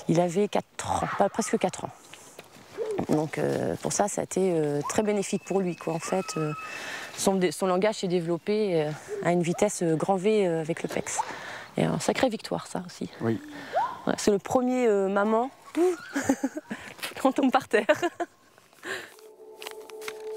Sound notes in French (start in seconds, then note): 15.8 rires